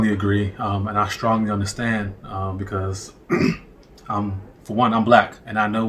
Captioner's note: clears throat